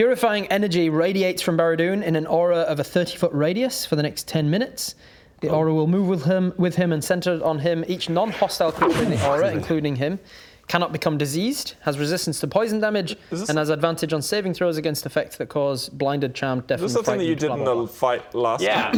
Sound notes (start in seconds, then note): 7.9 achoo!